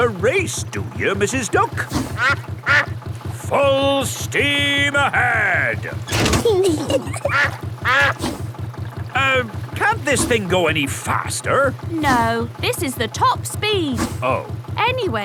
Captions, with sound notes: Want to race, do you, Mrs. Duck? (QUACKS) Full steam ahead! -(LEVEL CLANGS) -(KIDS GIGGLING) (QUACKS) Um, can't this thing go any faster? -No. This is the top speed. -Oh.